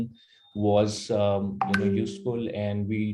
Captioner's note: notification sound